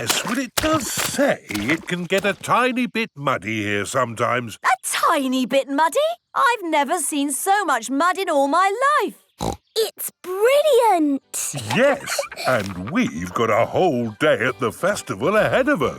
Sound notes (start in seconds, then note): 11.5 laughs